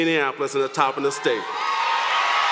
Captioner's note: applause